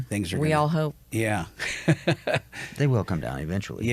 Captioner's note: laughs